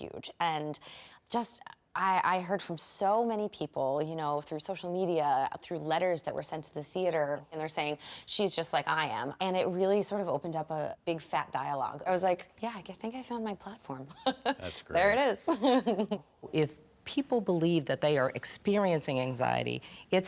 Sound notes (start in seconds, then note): 15.5 chuckles